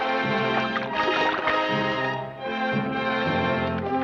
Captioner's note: water splashes